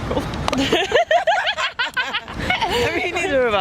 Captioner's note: laugh